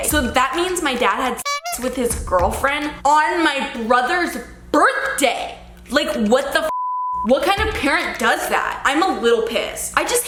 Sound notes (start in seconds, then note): 6.7 beep